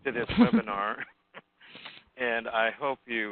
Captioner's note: chuckles